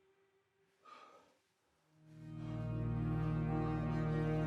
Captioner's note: Van Helsing breathing heavily; soft melodic music